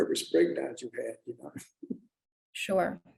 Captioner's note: chuckles